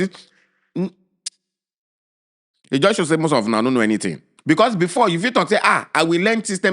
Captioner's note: lip smack